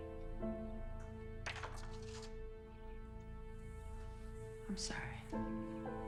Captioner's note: photograph clattering